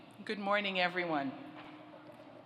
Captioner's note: none